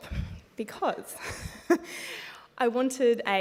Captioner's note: laughs